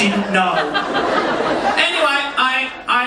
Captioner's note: audience laughing